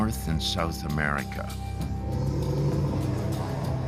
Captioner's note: animals growling